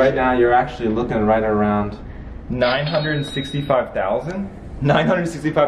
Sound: cash register dings

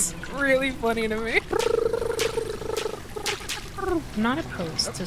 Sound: trilling

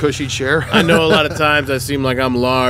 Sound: laughs

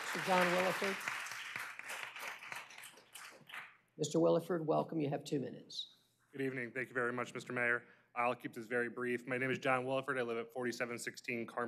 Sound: applause

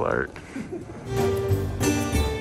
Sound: laughs; bright music continues

